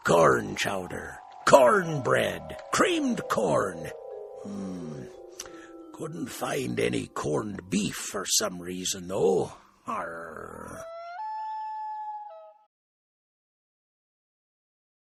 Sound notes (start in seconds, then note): 0.0 captain's voice; 10.6 loon noise